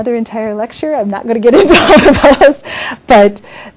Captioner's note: laughs